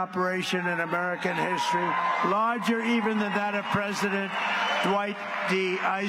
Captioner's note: cheers and applause